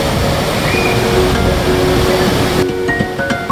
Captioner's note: sound of flowing water